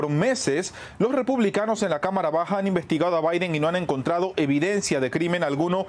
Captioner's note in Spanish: HABLAN EN INGLéS